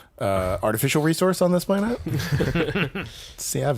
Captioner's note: laughs